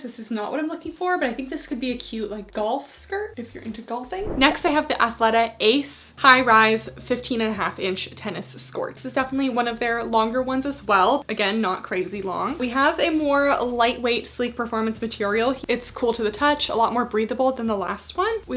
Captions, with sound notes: this is not what I'm looking for, but I think this could be a cute like golf skirt if you're into golfing. [screen whooshing] Next I have the Athleta Ace High Rise, 15 1/2 inch tennis skorts, is definitely one of their longer ones as well. Again, not crazy long, we have a more lightweight, sleek performance material. It's cool to the touch. A lot more breathable than the last one.